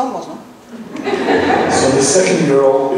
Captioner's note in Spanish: laughs